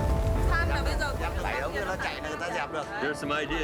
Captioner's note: non-english speech